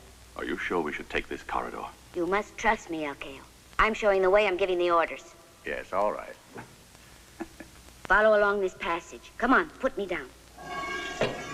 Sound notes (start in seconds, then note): 7.4 laughing